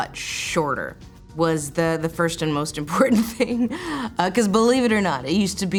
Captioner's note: chuckles